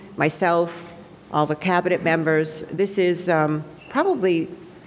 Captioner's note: none